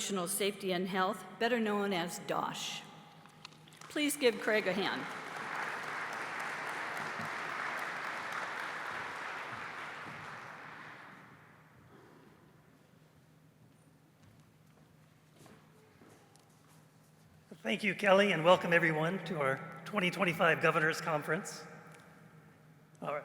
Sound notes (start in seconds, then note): 5.4 applause